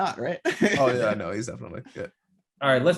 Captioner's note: laughing